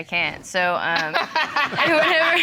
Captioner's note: chuckles; audience laughing